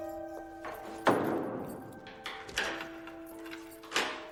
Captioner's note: lock clicks